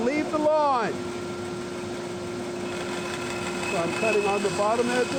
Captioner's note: saw whirring